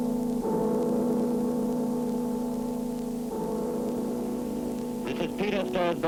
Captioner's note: bell tolls